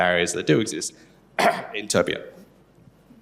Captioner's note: coughs